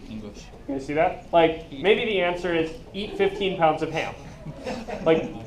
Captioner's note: laughing